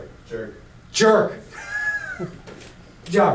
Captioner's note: voiceover; laughs